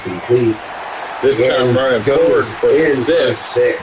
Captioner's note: crowd Noises